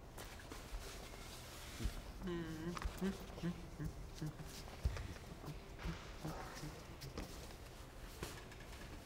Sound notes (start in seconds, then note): 2.2 Andres humming